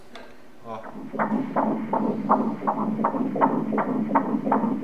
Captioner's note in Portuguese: batimentos cardíacos